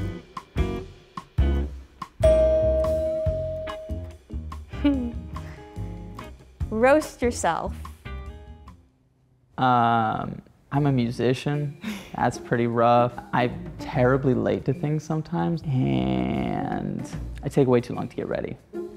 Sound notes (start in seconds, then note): 0.3 intriguing music; 2.2 bell dings; 4.7 Marissa chuckles